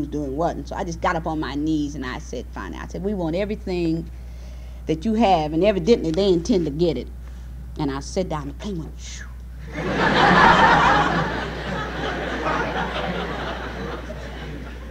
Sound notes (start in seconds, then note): 9.6 laughter; 10.0 hush noise